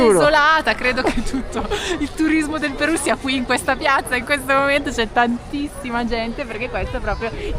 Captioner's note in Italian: risate